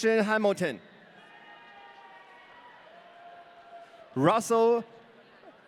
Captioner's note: audience cheering